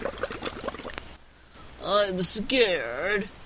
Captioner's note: sound of bubbles in water